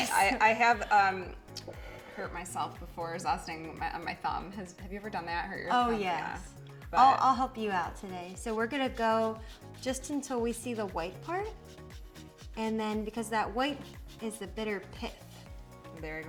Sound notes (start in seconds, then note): 11.7 zester scraping